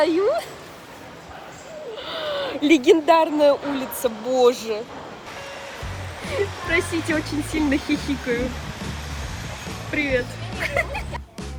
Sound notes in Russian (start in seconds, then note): 1.7 вздох; 6.3 смех